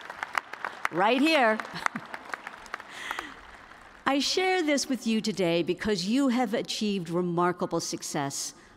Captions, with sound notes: [CHEERS AND APPLAUSE] RIGHT HERE. I SHARE THIS WITH YOU TODAY BECAUSE YOU HAVE ACHIEVED REMARKABLE SUCCESS